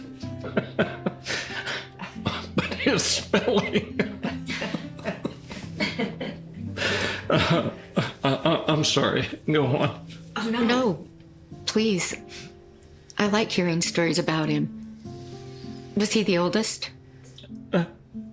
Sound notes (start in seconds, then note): 0.2 laughs; 2.6 laughter; 8.1 stutters